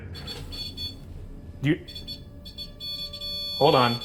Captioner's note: continuous beep